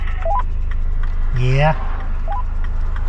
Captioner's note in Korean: 무전